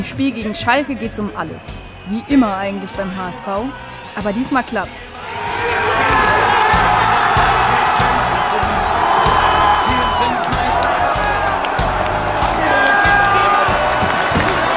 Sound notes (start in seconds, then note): 5.1 Jubel